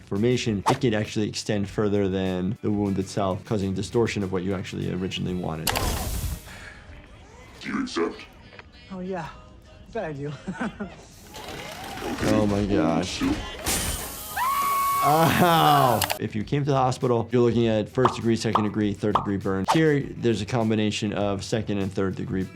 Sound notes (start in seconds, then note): 5.8 Maximus groans; 14.2 Thaddeus screams